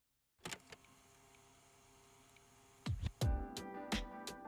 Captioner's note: film whirring